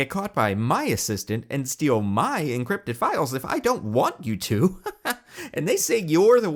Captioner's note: laughs